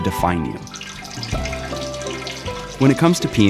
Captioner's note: peeing sounds